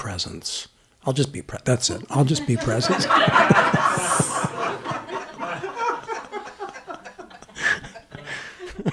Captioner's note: laughter; long laughter